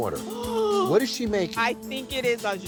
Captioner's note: gasps